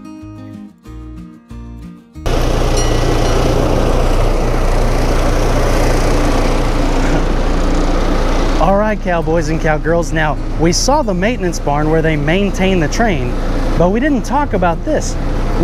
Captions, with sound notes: (train rumbling) All right, cowboys and cowgirls, now, we saw the maintenance barn where they maintain the train, but we didn't talk about this.